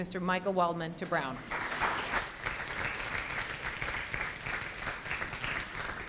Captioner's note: applause